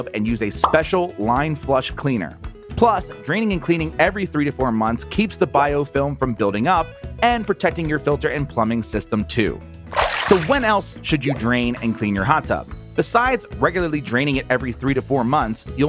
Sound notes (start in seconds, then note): 9.9 water sloshing